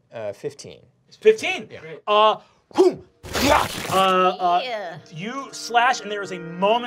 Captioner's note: crunching